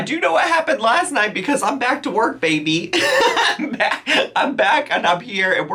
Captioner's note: laughs